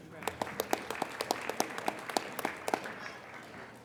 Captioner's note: applauding